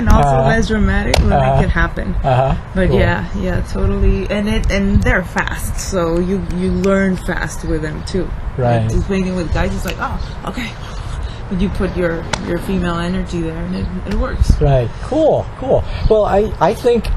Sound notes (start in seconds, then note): 0.0 laughs; 10.1 breathless